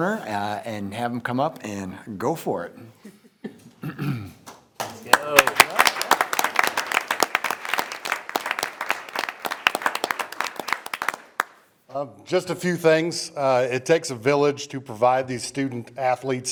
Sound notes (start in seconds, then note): 4.7 people applauding